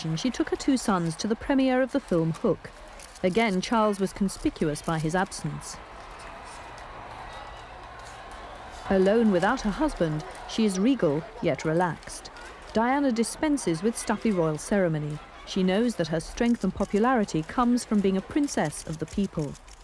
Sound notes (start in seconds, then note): 6.1 crowd cheering